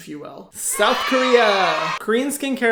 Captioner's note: children cheering